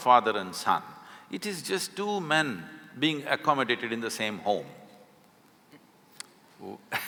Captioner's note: laughs